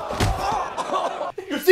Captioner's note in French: Cri de douleur